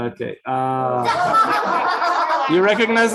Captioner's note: laughter